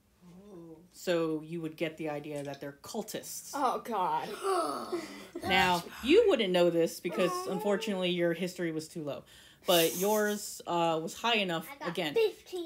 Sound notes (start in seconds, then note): 4.8 collective gasp